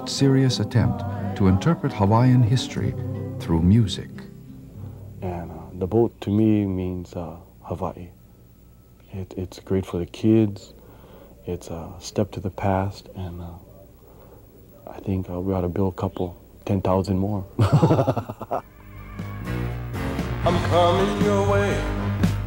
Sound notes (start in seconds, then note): 17.5 man chuckling; 18.7 hawaiian rock music